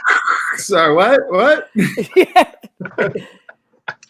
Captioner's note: all laughing